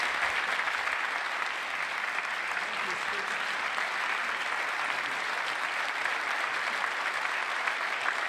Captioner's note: applause